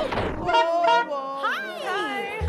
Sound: clown honking

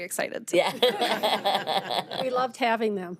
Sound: members laughing

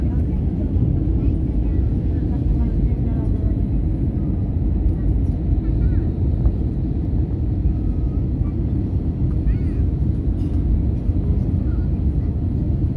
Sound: random chatter of 7 year olds and their mums

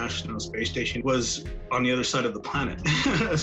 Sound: laughs

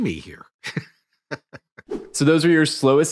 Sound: laughing

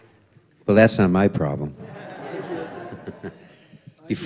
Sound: laughter

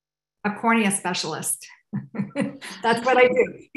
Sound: laughs

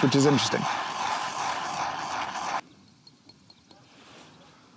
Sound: grinder grinding

